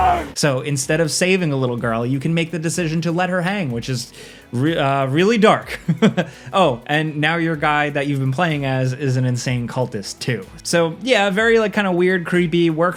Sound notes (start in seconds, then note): 5.7 chuckles